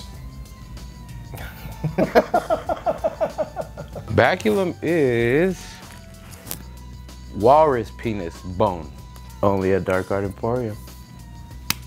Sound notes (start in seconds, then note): 1.4 laughter